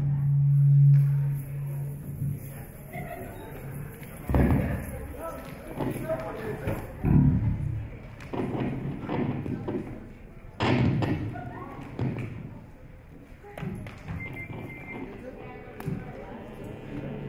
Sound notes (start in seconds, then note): 0.0 microphone interference buzzing; 5.2 audience chatter; 9.5 speaker crackles